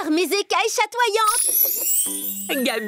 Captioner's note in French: bruit de baguette magique